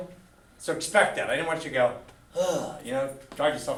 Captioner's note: sighs